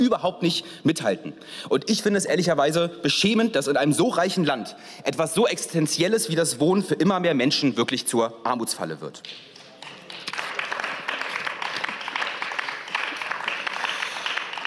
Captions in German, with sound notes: aber überhaupt nicht mithalten. Und ich finde es ehrlicherweise beschämend, dass in einem so reichen Land etwas so Existenzielles wie das Wohnen für immer mehr Menschen wirklich zur Armutsfalle wird. (Beifall)